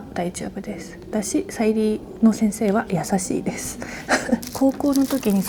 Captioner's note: laughs